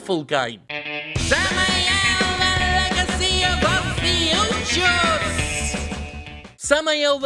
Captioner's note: as Skeletor